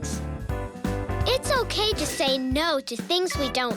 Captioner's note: bell ringing